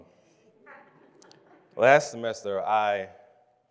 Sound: congregation laughs

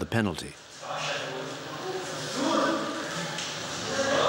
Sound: Arabic spoken audio

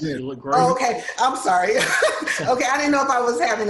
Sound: laughs

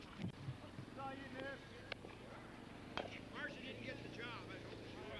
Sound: engine rumbling; rumbling continues

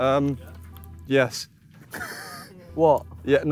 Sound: wheezes

